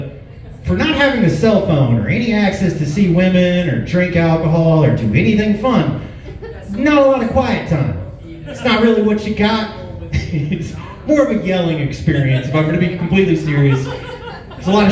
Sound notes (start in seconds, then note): 9.7 chuckles